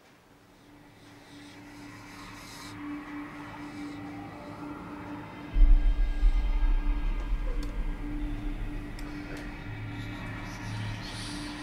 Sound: ghostly whispering

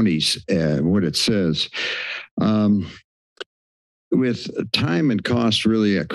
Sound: clicks tongue

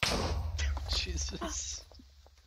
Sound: boom

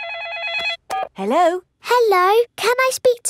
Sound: phone rings

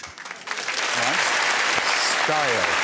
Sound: cheers and applause

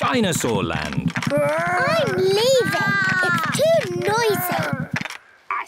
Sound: both roar

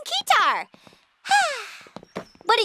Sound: sigh

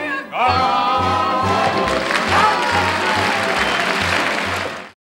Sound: audience applauding

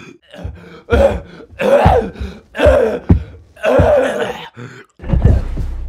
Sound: violent coughing; thud

